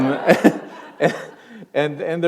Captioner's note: chuckle